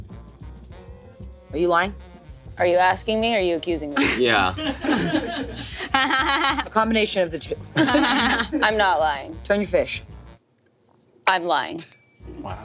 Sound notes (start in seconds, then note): 5.4 crew laughs; 7.7 everyone laughs